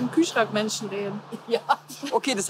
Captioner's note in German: Pierre lacht